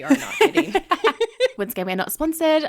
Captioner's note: laughing